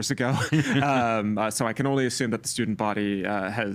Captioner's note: laughing